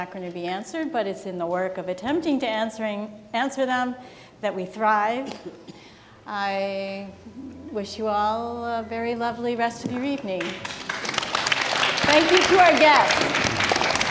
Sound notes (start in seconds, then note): 10.4 audience applauding